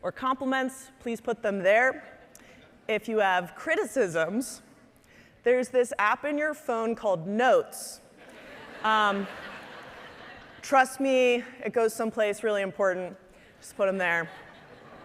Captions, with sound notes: or compliments, please put them there. If you have criticisms, there's this app in your phone called Notes. (audience laughing) Trust me, it goes someplace really important. Just put 'em there.